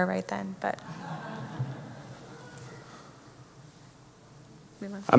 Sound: audience laughing

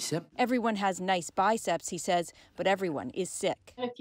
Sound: speaking French

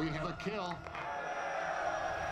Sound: cheering

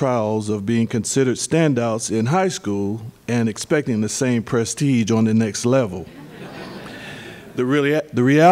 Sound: laughter

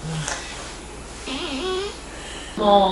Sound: fart

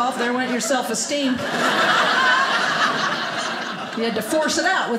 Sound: audience laughing

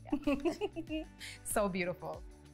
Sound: laughing

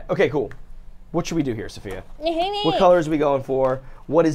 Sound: grumbles

